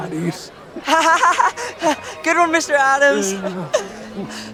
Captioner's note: laughing